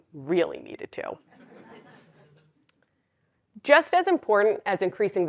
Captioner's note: laugh